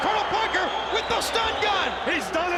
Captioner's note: crowd cheering